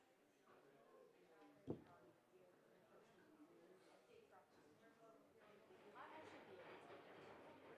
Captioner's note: audience chatter